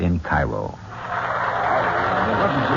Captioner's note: applause